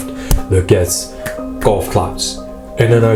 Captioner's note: clapping